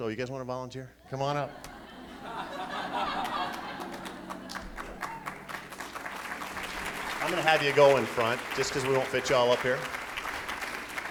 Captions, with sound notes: Oh you guys wanna volunteer? Come on up. (laughing) (applauding) I'm gonna have you go in front just 'cause we won't fit you all up here.